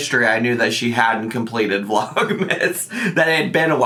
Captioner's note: laughing